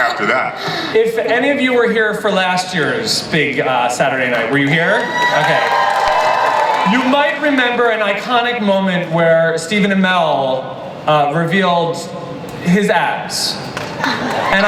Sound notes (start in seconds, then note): 7.3 audience cheers